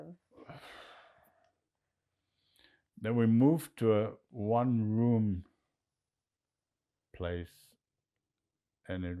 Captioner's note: sighing